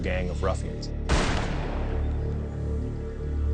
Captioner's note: gunshot